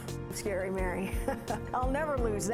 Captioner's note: laughs